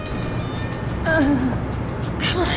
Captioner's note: electronic fade-out; moans in pain